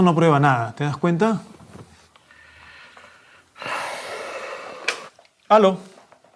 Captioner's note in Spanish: suspiro